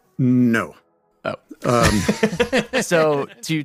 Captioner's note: laughs